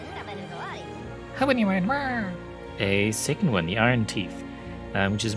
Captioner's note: beaver noises